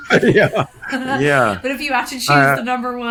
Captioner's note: both laughing